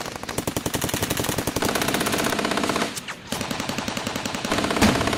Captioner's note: various gun shots from all directions